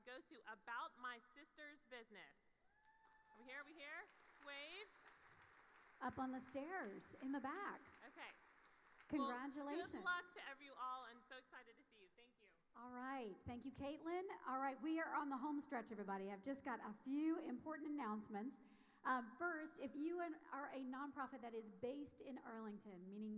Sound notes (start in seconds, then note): 2.8 audience cheering; 4.8 audience applauding